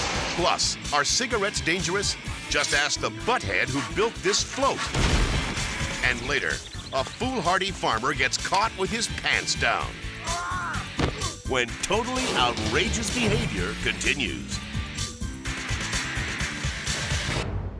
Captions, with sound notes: Plus, are cigarettes dangerous? Just asked the butthead who built this float. And later a foolhardy farmer gets caught with his pants down. (farmer yells) When "Totally Outrageous Behavior" continues. (upbeat music)